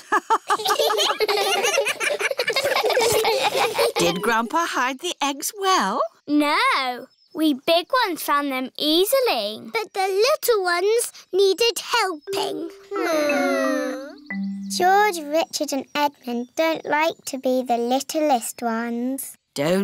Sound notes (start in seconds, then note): 0.0 all laughing; 0.0 laughs; 13.2 whining